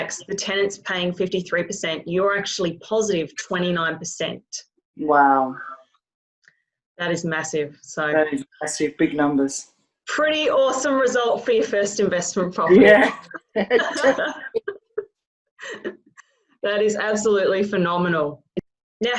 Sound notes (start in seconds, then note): 12.7 both laughing